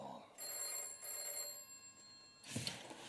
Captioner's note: telephone rings